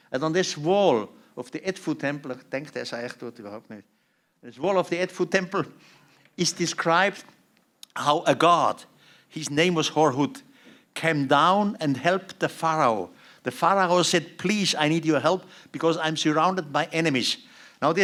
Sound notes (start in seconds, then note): 2.4 non-english speech